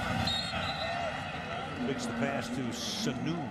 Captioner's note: whistle blows